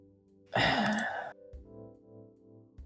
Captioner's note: sigh